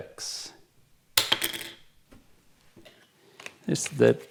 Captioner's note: thud sound